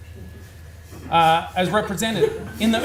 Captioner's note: audience laughs